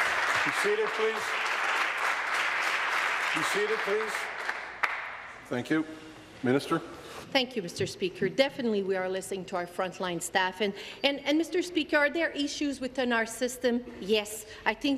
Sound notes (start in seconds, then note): 0.0 applause